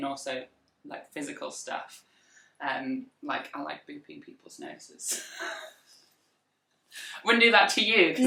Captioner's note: laughs